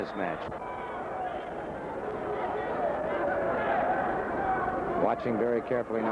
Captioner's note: crowd chattering